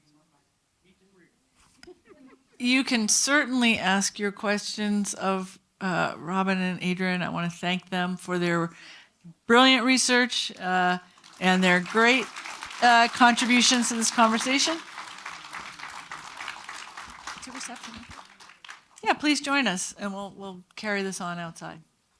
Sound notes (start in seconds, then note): 1.8 laughing; 15.0 attendees applauding; 17.5 speaking faintly